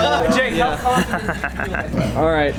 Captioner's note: evil laughter